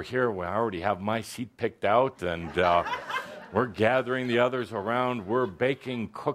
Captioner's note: laughter